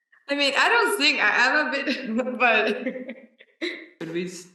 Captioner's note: laughs